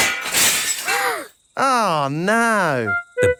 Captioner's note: shatters